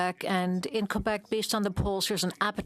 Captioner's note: speaking French